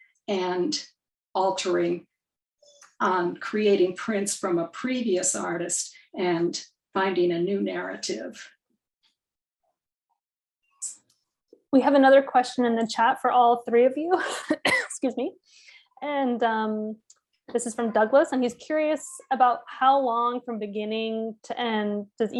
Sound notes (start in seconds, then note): 14.5 coughs